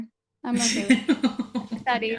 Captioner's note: laughs